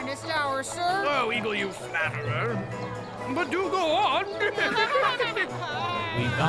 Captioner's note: laughing